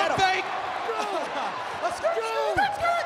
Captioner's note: laugh